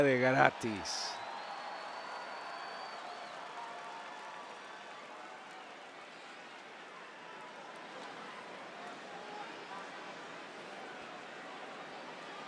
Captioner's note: applause